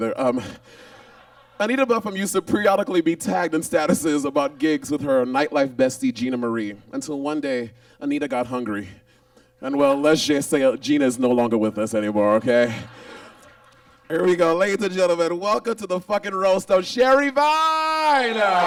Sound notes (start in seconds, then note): 12.6 audience laughs